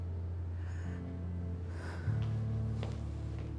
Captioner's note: exhales